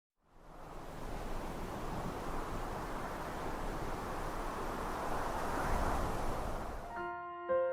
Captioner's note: wind blowing